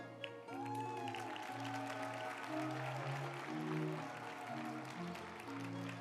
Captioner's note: group applauding; uplifting music